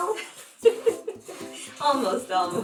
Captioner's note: laughing